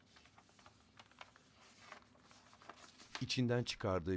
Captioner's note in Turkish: Kâğıt sesi